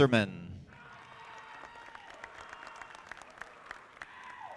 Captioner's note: audience applauding